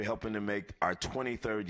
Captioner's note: laughter